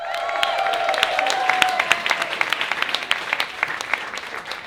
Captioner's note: audience cheers